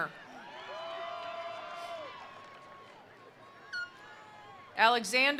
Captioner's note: attendees cheering; attendees applauding